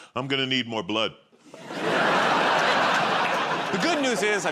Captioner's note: laughter